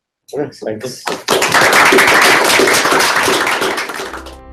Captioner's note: applause